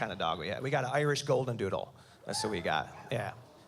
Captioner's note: woman cheers